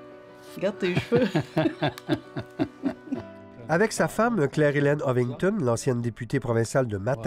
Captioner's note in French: rires